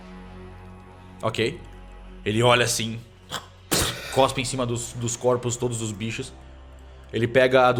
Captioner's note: spits